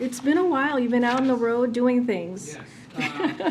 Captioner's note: laughs